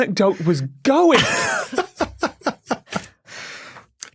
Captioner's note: cackles